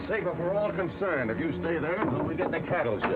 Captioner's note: door closes